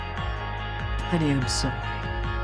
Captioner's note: voiceover